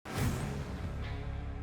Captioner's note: whooshing